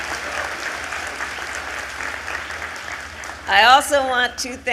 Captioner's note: applause